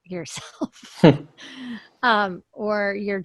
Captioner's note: laughs